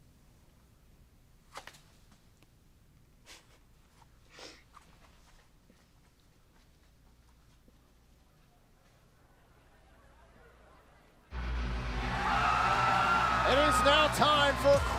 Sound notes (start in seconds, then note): 12.0 crowd cheering